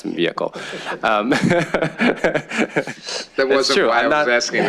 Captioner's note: chuckling